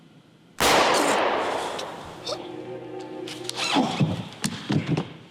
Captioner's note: gunshot booms; Steven gasps; body thuds